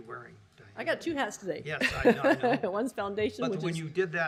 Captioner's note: laughter